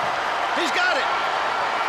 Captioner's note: crowd cheering